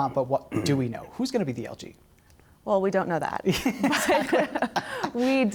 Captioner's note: laughter